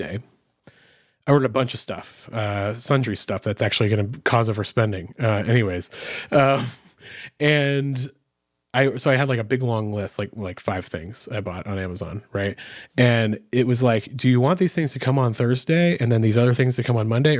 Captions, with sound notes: I ordered a bunch of stuff, sundry stuff that's actually gonna, cause of our spending, anyways, (chuckles) and so I had like a big long list, like five things I bought on Amazon, right? And it was like, "Do you want these things to come on Thursday and then these other things to come on Monday,